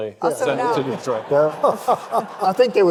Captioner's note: audience laughing